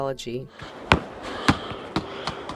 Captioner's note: ball bounces